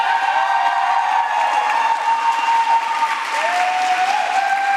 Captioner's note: applause